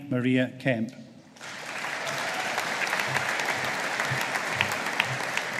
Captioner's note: audience applauding